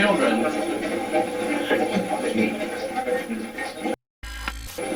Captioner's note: static playback transmitting; static fizzing